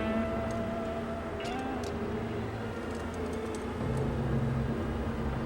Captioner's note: handcuffs rattling softly